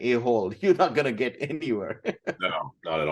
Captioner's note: laughs